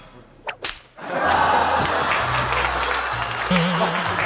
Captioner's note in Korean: 찰싹